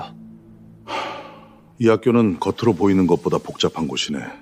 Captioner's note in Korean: 한숨